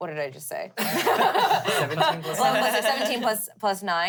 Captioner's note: everyone laughs